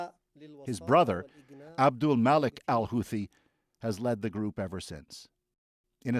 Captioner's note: speaking alternate language